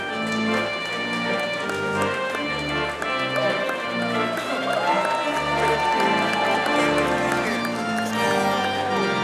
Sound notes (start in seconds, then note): 0.7 audience applauding; 5.1 audience cheering